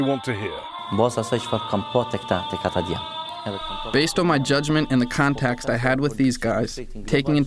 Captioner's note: through translator